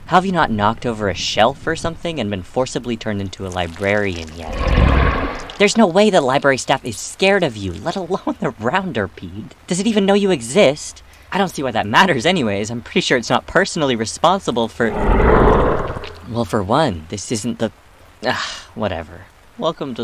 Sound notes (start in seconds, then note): 4.0 Azazel grumbles; 14.8 Azazel warbles